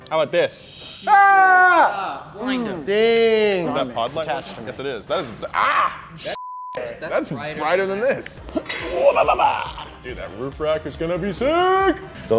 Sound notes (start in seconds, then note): 0.8 screaming; 6.4 beep; 8.6 grunting